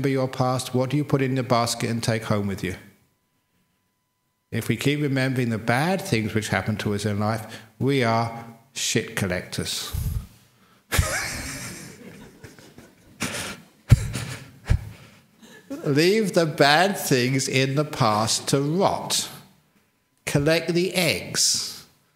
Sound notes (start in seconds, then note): 14.7 laughs